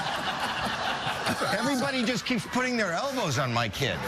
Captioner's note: audience laughing